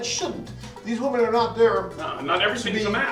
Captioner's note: Latin